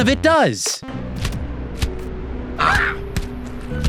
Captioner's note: smacking; screeches